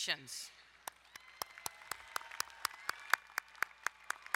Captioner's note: applauding